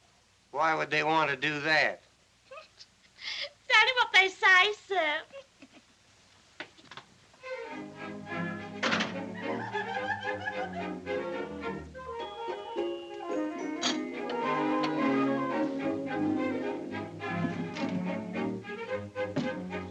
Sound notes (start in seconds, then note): 8.6 door Closes; 9.3 woman Giggles